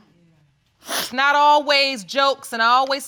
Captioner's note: sniffles